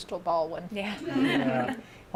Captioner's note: laughter